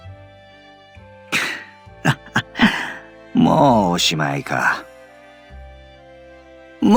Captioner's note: chuckle